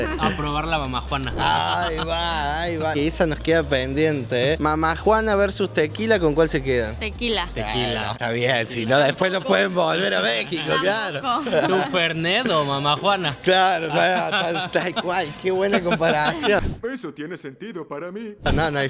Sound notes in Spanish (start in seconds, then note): 0.0 risas; 13.8 risas